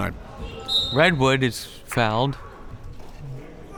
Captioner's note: whistle tweeting